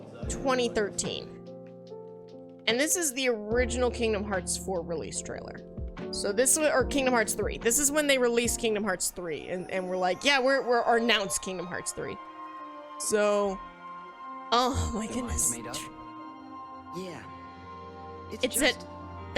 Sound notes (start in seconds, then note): none